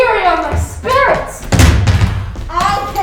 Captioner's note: bag thudding